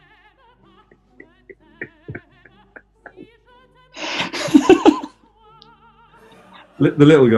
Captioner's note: giggling and laughing